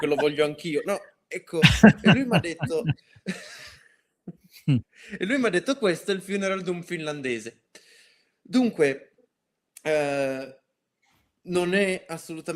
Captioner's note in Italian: risate